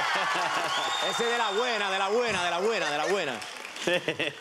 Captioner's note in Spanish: exclamaciones